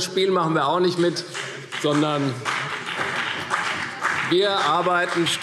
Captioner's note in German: Beifall CDU und vereinzelt BÜNDNIS 90/DIE GRÜNEN